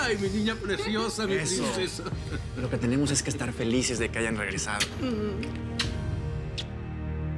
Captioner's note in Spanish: Riendo; Ríe